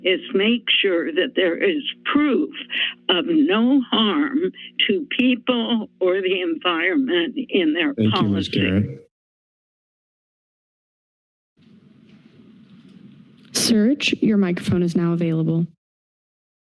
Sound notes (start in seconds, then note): 9.7 silence